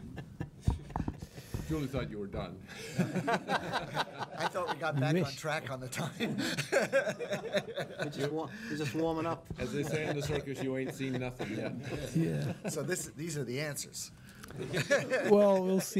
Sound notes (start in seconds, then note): 2.8 chuckling; 8.0 laughing; 11.1 laughing